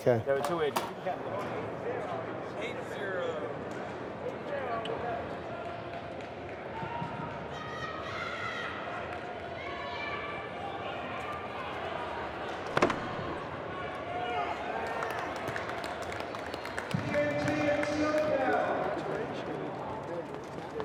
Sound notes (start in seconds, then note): 14.8 clapping